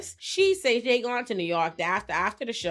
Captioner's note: none